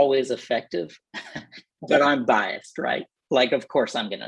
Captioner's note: laughter